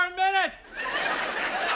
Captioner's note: audience laughs